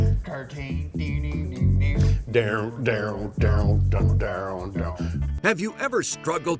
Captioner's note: both vocalizing guitar sounds